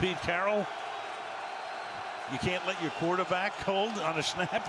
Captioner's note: cheering